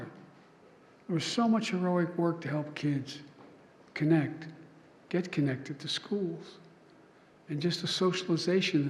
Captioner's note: none